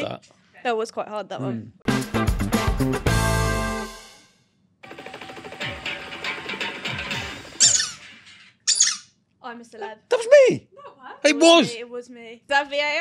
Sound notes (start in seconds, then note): 1.8 energetic rock music; 4.8 rock music begins; 7.5 toys squeak; 8.6 toy squeaks